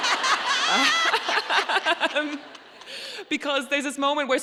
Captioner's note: audience laughing